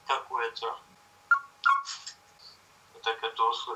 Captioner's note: chirping sound of the camera